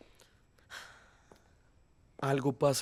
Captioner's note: Caridad suspira